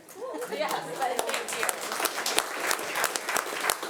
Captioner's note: all applauding